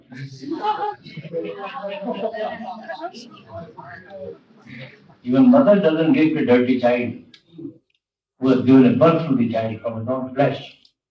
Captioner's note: laughter